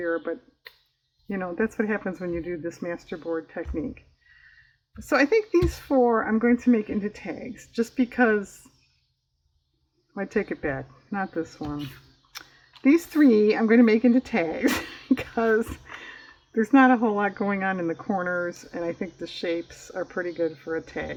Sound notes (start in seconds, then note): 14.5 laughs